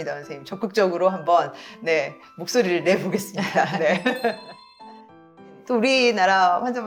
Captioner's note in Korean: 웃음